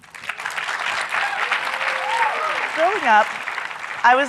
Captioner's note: audience clapping and cheering